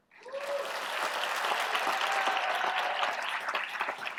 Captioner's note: cheering and applause